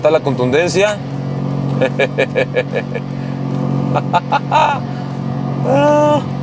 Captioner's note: laughter